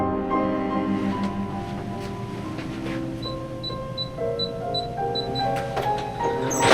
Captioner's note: beeping